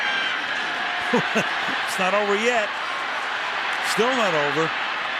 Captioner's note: chuckles